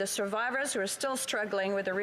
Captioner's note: speaking French